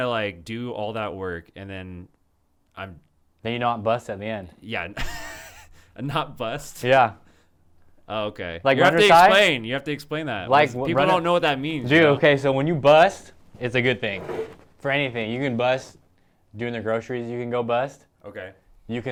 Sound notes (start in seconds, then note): 4.9 laughs